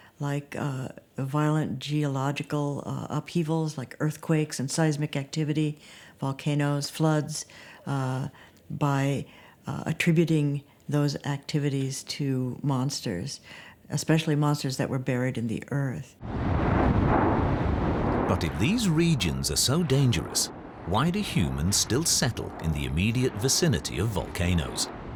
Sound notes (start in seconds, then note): 16.2 volcano rumbles